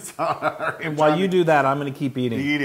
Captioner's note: laugh